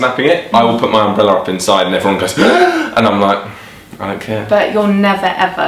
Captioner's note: gasp